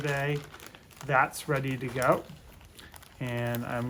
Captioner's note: bag rustles